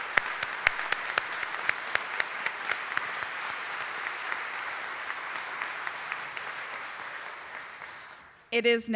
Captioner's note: audience applauding